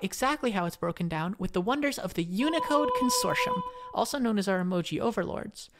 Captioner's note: holy noises commence